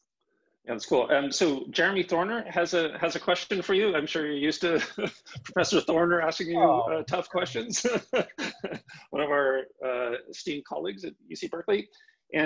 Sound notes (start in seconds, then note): 8.3 laughing